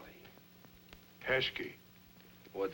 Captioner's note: non-english